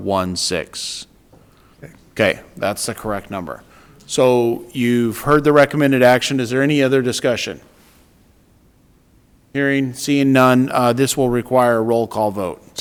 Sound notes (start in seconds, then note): none